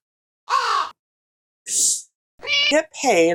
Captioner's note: caw; meow